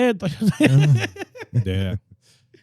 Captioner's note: laughing; speaking In Foreign Language